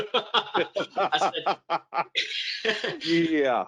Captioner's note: both laugh